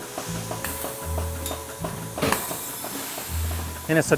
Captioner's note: hydraulic equipment hissing